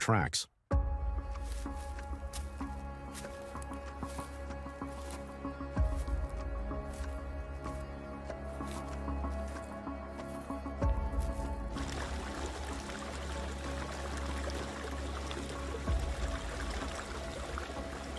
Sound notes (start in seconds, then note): 1.4 leaves rustling; 6.8 suspenseful music; 11.7 water gushing